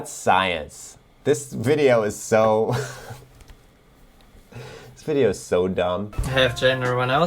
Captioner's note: chuckles